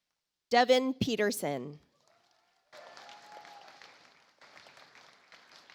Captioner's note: audience applauds